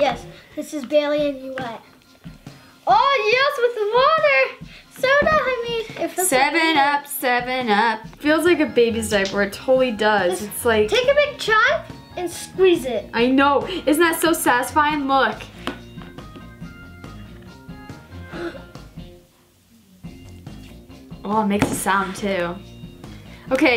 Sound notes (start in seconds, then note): 5.4 sets down soda bottle